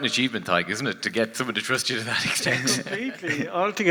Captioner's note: laughs